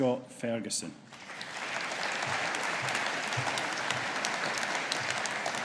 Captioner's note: audience applauding